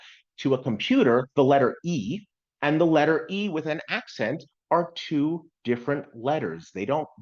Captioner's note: with an accent